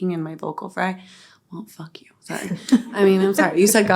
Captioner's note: all laughing